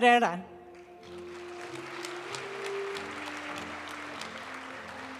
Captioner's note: audience cheering and applauding; graduation music